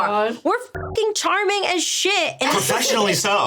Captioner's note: buzzing